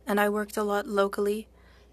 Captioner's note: speaking French